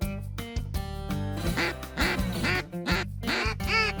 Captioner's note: duck calls